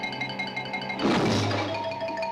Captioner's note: crashing